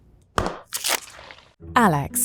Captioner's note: tub thudding